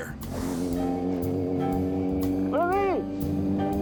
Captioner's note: motorcycle whirring; speaks in foreign language